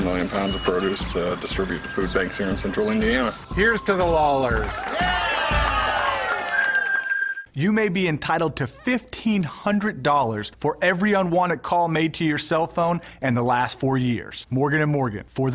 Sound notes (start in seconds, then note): 11.0 applause